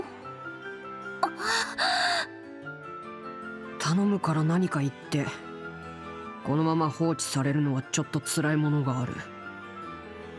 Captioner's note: sigh